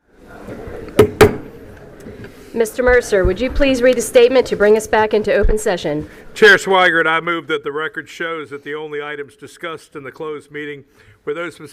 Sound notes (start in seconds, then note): 1.0 gavel hitting dais